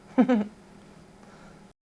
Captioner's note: laughs